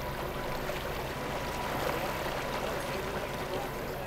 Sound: water splashing

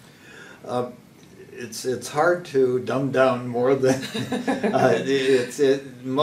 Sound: laugh

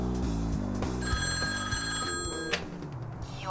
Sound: phone ringing

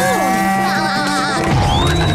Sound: giggling

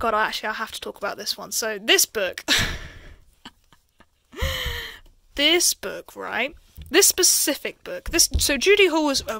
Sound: laughs

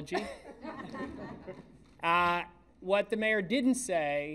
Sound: laughter

